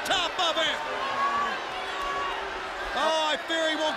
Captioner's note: crowd chatter